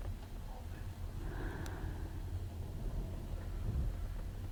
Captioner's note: Astrid sighs